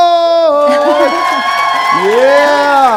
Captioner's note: audience applauding; audience cheering